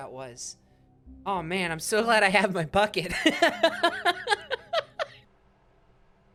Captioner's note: laughs